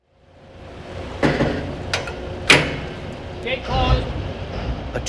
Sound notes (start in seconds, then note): 0.2 boat motors